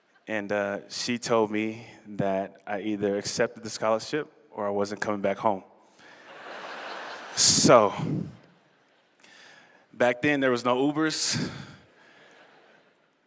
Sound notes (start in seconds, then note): 0.0 laughter; 6.1 laughter